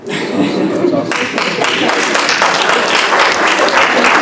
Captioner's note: applause